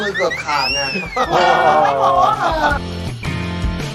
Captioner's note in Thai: หัวเราะ